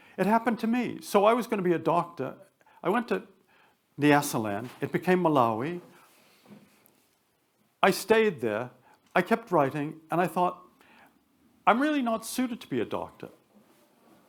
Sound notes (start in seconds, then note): none